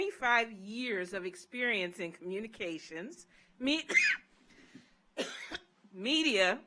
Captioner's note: coughs